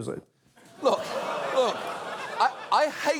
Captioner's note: audience groans